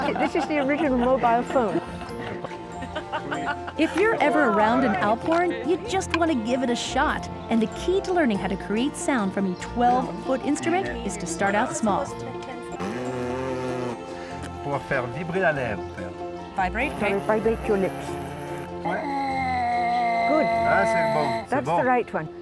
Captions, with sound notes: -This is the original mobile phone. -If you're ever around an alphorn, you just want to give it a shot, and the key to learning how to create sound from a 12-foot instrument is to start out small. -Pbht! [ Speaks French ] -Vibrate. -You got to vibrate your lips. [ Horn blowing ] -Good. That's the right one.